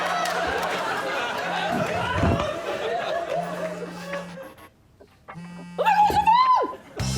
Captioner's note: phone buzzing